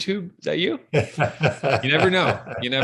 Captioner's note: laughter